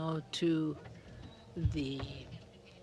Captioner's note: speaking French